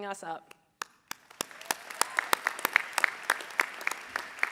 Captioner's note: audience applauding